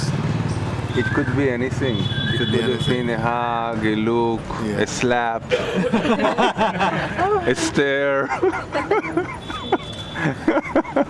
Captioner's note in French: rires